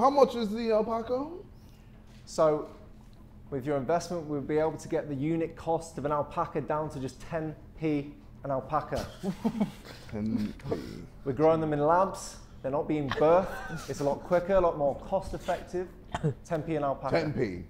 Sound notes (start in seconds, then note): 9.0 Harry laughing